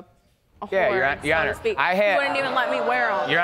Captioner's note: audience gasps